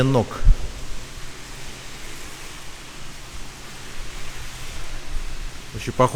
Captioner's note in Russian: шум воды